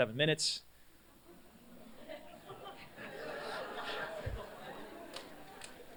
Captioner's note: laughter